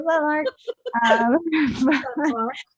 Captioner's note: laughs